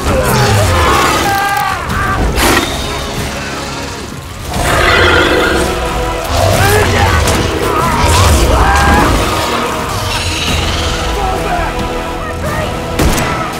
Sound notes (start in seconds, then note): 4.4 creature growls